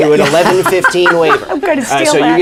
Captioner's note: laughter